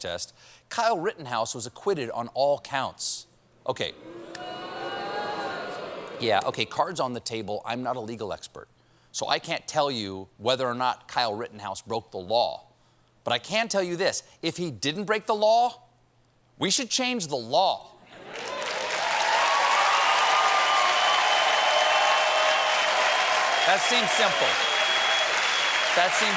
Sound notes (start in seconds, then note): 3.8 audience reacts; 18.1 cheers and applause